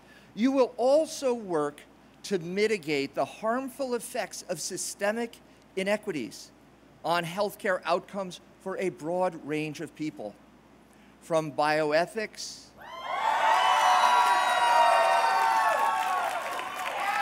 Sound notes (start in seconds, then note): 12.8 cheers